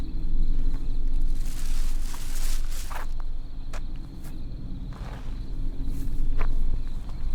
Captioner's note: shuffling footsteps; bag rustles